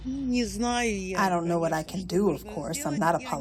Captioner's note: through translator